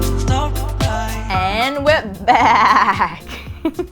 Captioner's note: laughs